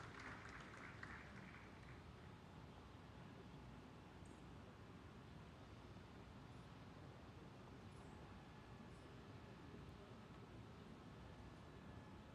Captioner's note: applause